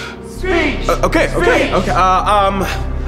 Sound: chanting continues

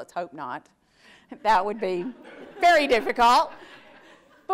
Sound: audience laughs

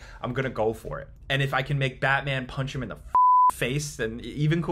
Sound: beeps

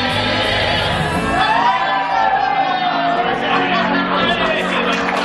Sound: cheers

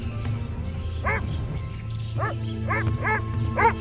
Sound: barking

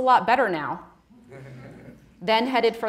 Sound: audience laughing

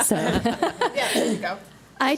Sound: board laughs

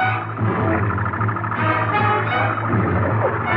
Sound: ship Engine sound

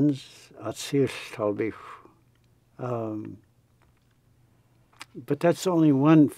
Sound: speaks in foreign language

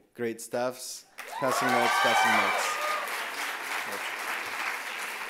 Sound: loud applause and cheers

